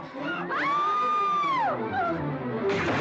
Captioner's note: screaming; splash